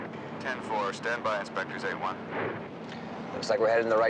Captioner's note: none